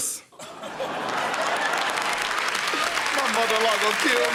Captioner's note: laughter